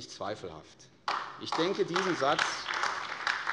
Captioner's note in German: Beifall AfD